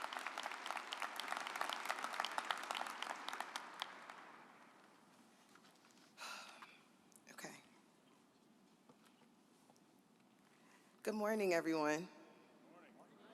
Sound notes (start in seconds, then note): 7.7 sighs